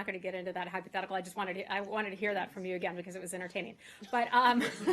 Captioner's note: laughter